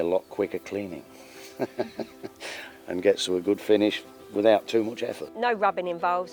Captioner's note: laughs